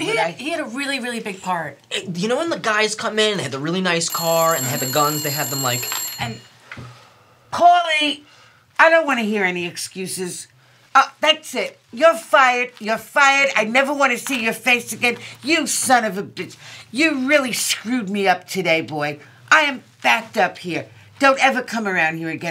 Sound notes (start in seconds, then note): 5.7 phone ringing